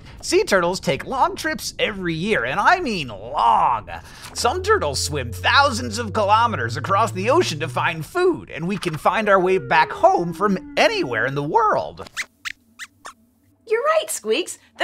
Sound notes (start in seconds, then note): 12.0 squeaks squeaks